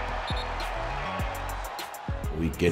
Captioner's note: whistle blowing